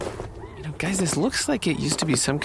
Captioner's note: sound of the crew’s footsteps